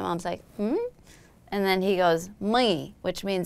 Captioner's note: foreign language